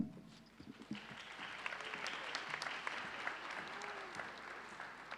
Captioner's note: audience applauding